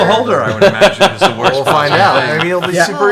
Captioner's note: laughs